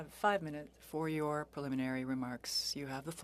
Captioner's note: speaking French